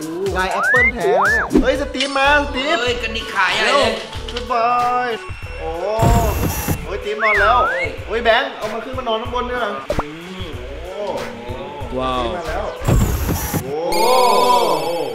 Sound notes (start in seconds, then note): 12.8 machine moves